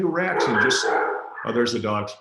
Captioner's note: barking